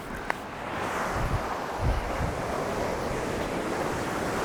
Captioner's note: waves crashing